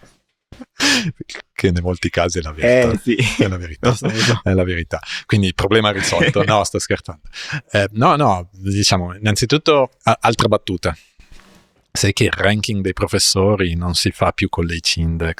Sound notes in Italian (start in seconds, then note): 0.9 risate; 5.9 risate